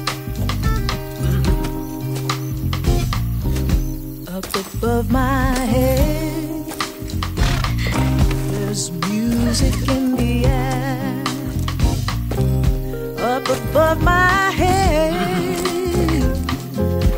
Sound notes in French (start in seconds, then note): 3.0 en anglais; 15.0 hennissement